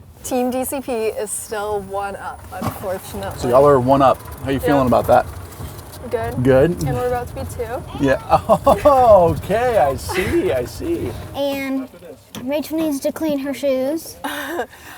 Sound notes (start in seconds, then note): 7.8 laughs